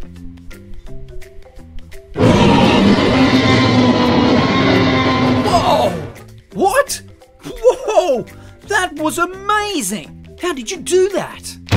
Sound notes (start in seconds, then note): 2.1 epic dinosaur roar